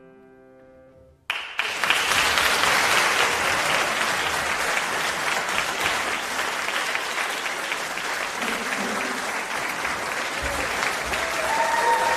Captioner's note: applause